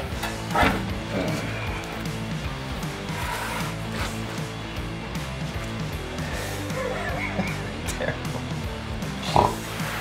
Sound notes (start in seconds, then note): 0.5 grunting; 6.2 laughing